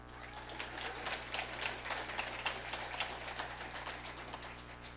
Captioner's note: audience applauding